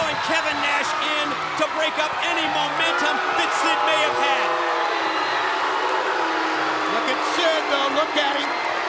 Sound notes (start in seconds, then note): 4.9 crowd cheering